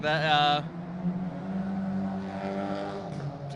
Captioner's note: car engine